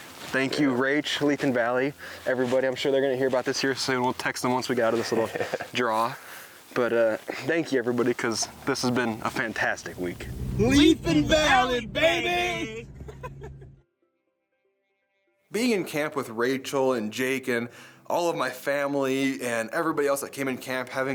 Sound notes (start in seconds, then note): 12.1 laughs